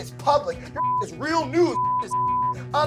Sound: beep

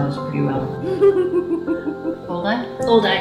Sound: laughs

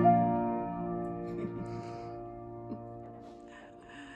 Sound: both chuckle

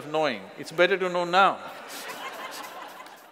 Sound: laughter

